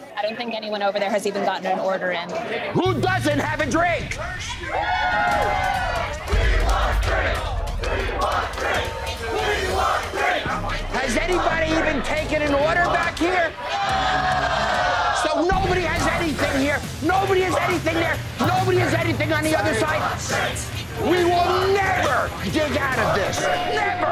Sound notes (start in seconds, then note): 4.3 crowd cheering; 13.8 crowd booing